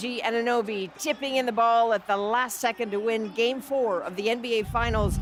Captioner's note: cheers and Applause